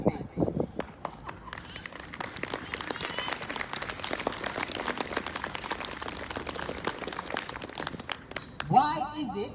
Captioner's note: applause